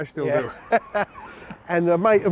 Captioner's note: laughing